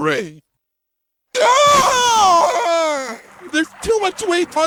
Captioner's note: scream